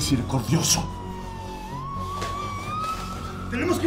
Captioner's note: sirens wailing